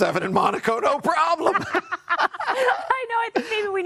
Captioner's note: hearty laughing